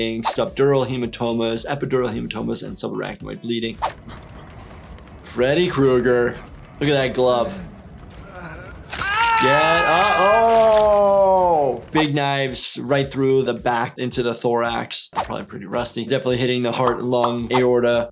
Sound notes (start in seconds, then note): 8.2 character screams; 8.7 blood sloshes